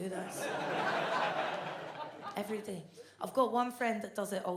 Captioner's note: audience laughs